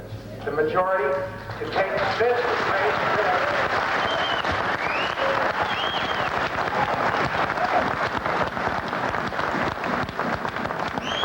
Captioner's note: applause interrupts